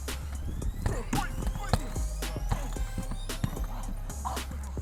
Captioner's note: grunting